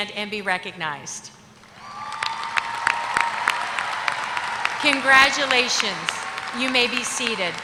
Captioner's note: applause